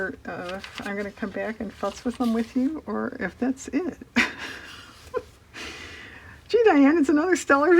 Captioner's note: laughs